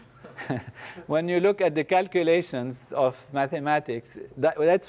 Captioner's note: laugh